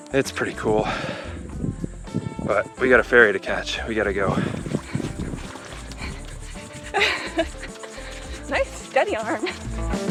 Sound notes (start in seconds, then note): 4.2 heavy breathing; 6.7 laughs